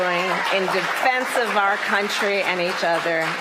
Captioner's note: applause